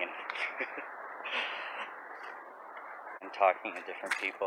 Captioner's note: chuckles